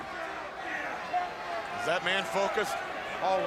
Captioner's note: crowd chatter